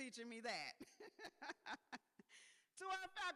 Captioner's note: laughs